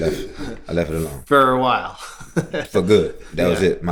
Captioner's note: laughter